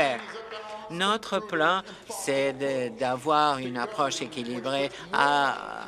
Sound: applause

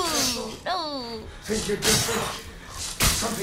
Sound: groans; sharp exhale

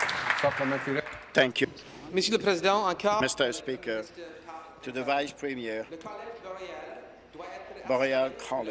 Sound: applause

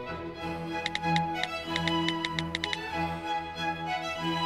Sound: keys click

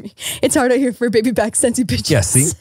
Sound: laughs

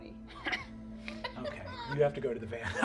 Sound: chuckling

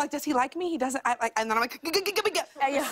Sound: stammering

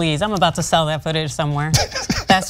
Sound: laugh

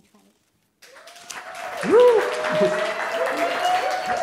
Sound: applause

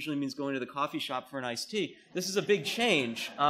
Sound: laughter

